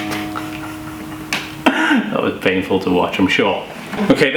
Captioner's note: plucking Guitar Strings; laughs